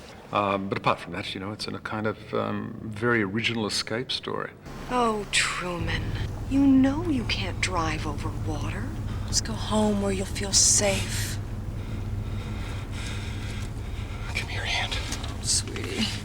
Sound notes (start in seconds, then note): 11.0 breathing Heavily; 14.2 whispers